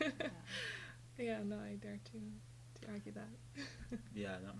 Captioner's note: laughs